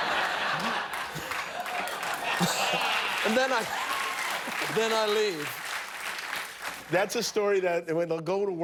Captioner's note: laughter; cheers and applause